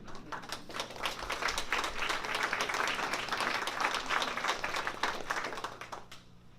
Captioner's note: applause